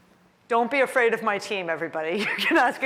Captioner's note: laughter